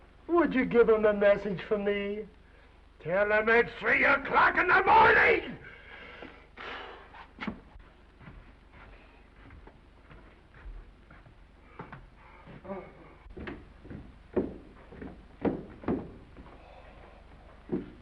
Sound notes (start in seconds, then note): 5.6 exhales; 7.2 footsteps receding; 12.6 Mr. Randall yawns; 13.2 footsteps receding